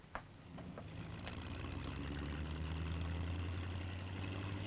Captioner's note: car rumbling